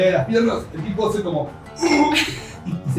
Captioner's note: grunt